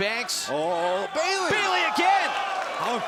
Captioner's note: crowd chatter